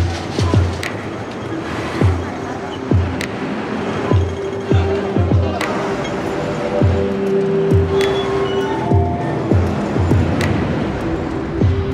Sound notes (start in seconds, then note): 0.1 upbeat music; 6.4 street traffic